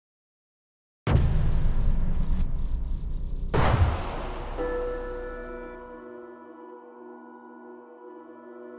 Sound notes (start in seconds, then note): 1.1 dramatic music; 4.5 bell rings